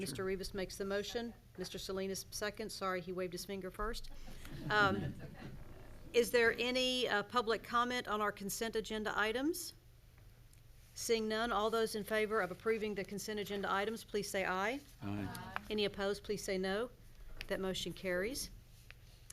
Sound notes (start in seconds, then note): 4.5 crowd laughing